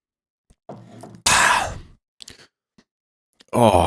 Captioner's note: loud sigh